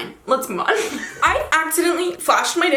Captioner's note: laughs